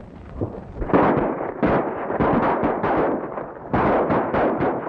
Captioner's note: guns firing